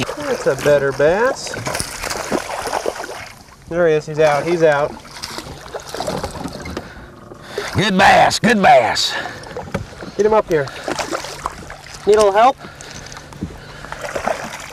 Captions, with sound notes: that's a better bass [lots of jumping and splashing] there he is, he's out, he's out [Splashing] Good bass, good bass get him up here [splash] need a little help? [Splash]